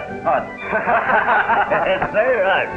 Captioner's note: laughter